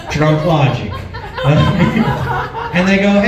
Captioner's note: laughs